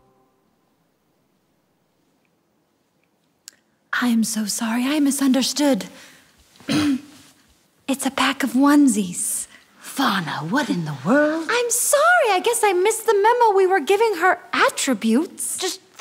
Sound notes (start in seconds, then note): 0.0 silence; 6.6 clears throat